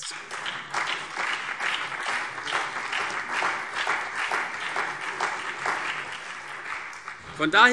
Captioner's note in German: Beifall CDU, BÜNDNIS 90/DIE GRÜNEN und SPD